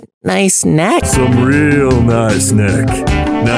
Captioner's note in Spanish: Voz seductora